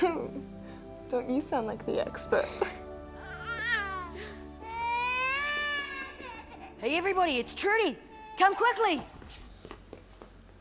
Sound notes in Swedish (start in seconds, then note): 0.2 skrattar; 3.8 Brady gråter